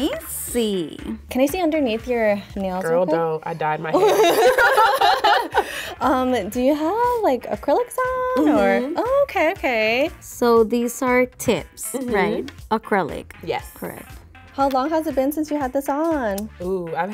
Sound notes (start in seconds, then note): 3.9 both laugh